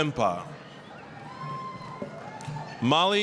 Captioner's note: applause, cheering